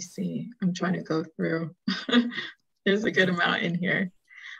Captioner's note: chuckles